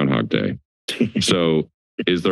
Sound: laughter

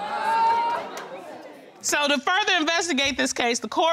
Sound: audience groaning

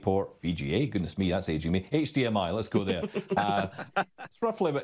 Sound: laughing

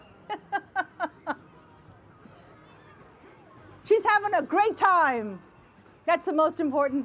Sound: laughs

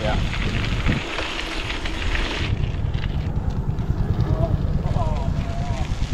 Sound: bike tires bumping against path

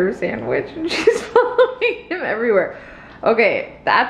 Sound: laughing

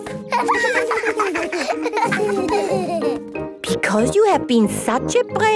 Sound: laughter

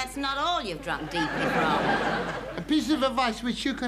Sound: audience laughing

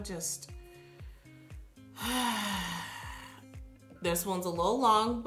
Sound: sighs

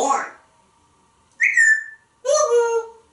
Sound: whistling

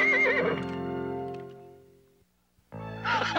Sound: neighs

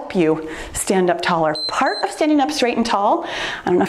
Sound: timer beeps

